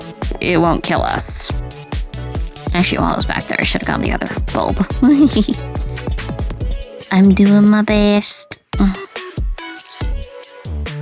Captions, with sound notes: it won't kill us. Actually, while it was back there, I should have gotten the other bulb. [laughs] I'm doing my best.